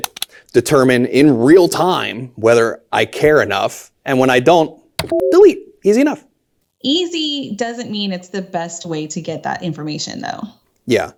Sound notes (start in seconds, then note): 5.0 message blips